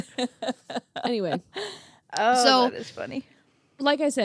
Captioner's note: laughing